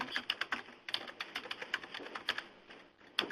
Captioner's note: typing